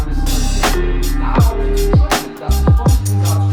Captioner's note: upbeat music; chatters